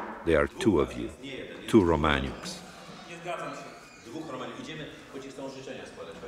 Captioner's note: speaking Polish